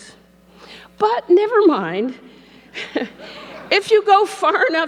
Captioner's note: laughs